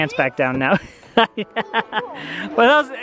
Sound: laughing

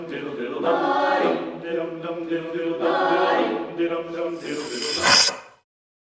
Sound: singing; scratch; silence

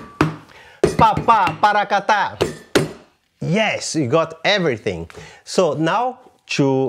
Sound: vocalizes rhythm

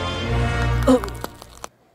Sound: thuds

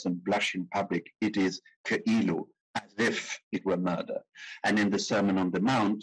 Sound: speaking in foreign language

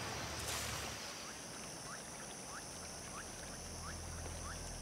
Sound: insects trilling

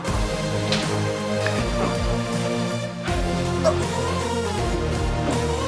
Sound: muttering in pain

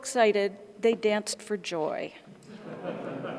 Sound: brief laughter

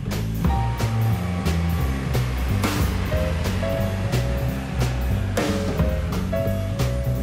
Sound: jazzy upbeat music; car engine puttering

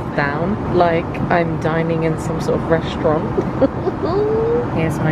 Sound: chuckles

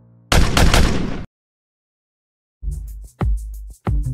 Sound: gun bangs; rhythmic music

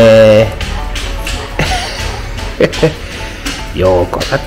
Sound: laughs

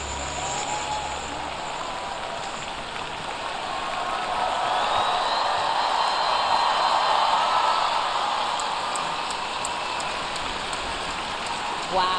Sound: applause

